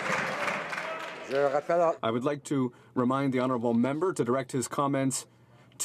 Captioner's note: some Applause